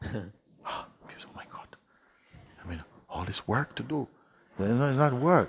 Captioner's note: Mooji gasps